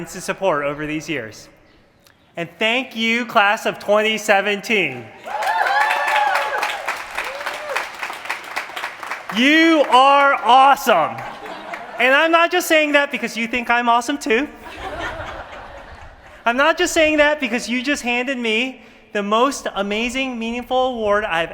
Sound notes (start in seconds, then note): 5.2 applause; 14.6 laughter